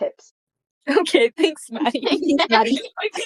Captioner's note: laughing; chaotic laughter